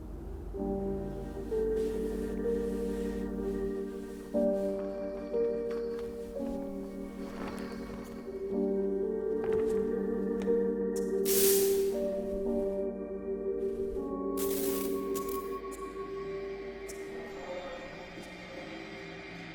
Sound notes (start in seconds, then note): 6.4 tarp rustling; 11.3 lights buzzing; 15.5 suspenseful music